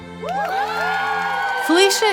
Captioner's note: crowd cheering